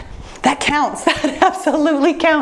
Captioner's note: laughs